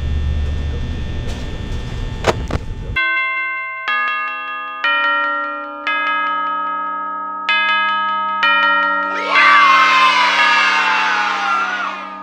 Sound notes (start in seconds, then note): 3.0 bell Rings; 9.0 kids Cheering